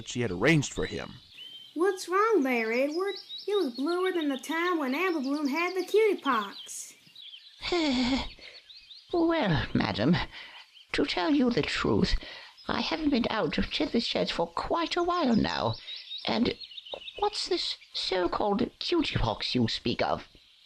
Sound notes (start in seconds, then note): 7.6 sighs